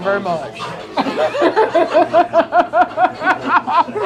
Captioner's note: both laughing